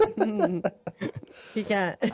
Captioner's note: laughing